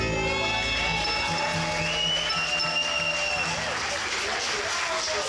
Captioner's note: audience cheering